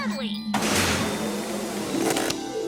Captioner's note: air hisses